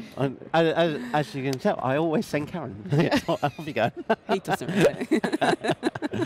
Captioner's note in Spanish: Risas